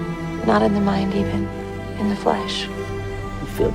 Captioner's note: voiceover